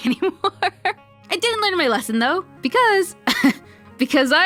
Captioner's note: laughs; laughs